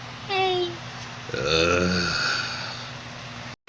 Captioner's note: groaning